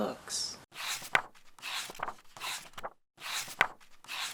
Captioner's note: pages turning